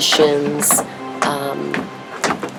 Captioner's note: tapping on the floor